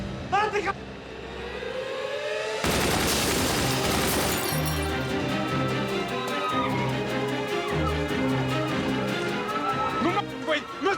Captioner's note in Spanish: ruido de vidrios; griterío